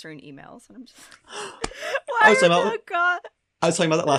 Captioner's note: gasps